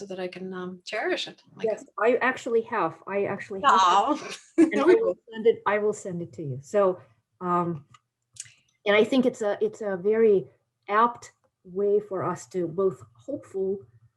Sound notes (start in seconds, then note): 4.0 laughs